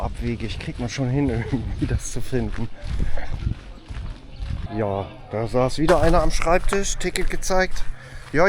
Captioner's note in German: gelächter